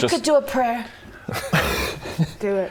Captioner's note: atheist laughter